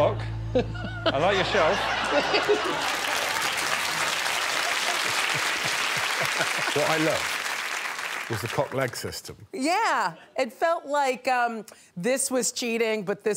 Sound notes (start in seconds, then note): 0.6 laughs; 3.0 audience applauding; 3.0 audience laughing; 6.3 chuckling